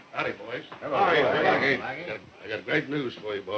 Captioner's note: voices overlapping in greeting